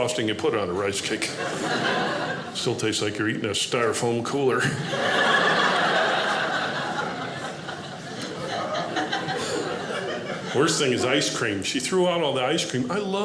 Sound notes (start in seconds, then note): 4.7 audience laughing